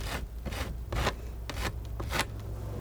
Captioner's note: scratching